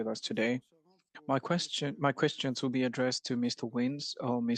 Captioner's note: speaking French